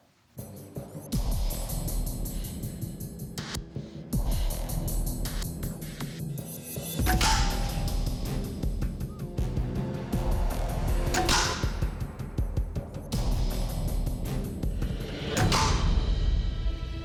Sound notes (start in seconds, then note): 7.0 thudding; 9.0 whistling; 10.9 thudding; 15.3 thudding